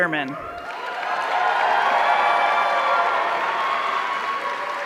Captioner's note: audience cheering